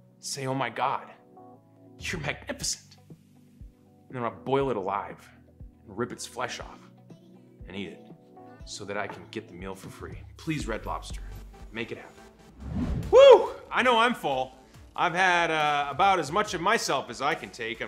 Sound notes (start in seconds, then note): 12.5 swoosh